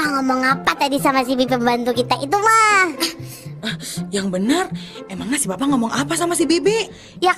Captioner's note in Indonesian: tertawa